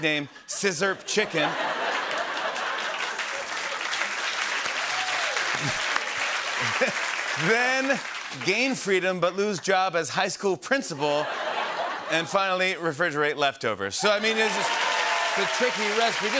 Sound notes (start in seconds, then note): 0.8 laughter and applause